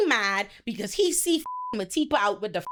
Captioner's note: beep